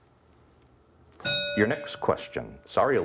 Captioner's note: bell ringing